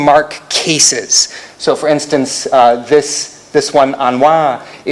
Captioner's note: non-english